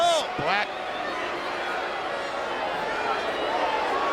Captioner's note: crowd yelling